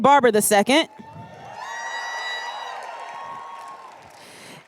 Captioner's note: cheers